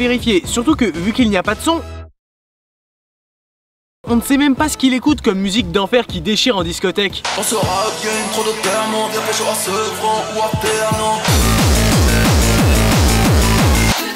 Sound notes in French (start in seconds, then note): 2.0 aucun son; 7.3 Musique rap